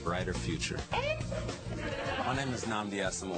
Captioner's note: laughter